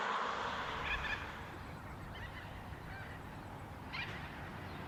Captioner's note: birds chirping